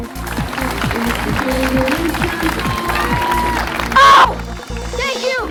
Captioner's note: audience applauding